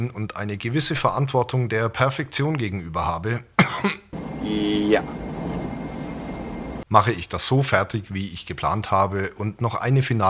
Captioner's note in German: hust